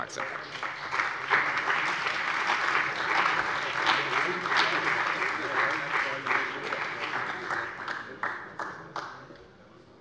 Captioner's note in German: Beifall bei der CDU und dem BÜNDNIS 90/DIE GRÜNEN